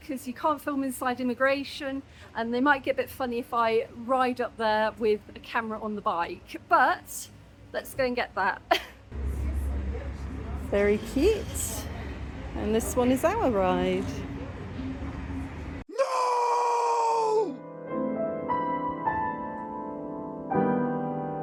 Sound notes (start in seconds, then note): 16.0 scream 'noooo!'; 17.6 light piano music